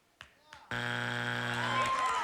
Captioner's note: buzzer